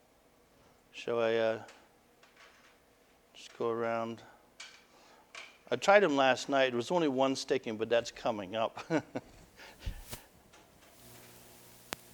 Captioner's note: laughter